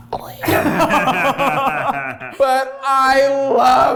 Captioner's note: group laughs